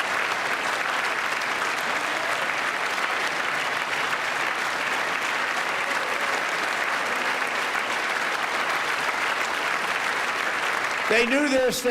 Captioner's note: applause